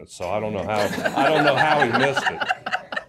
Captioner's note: laughter